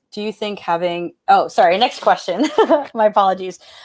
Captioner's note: laughs